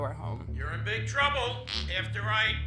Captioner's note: fart